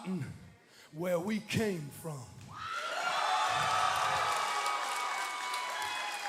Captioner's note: cheers and applause